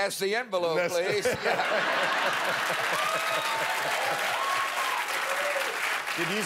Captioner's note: laughter and applause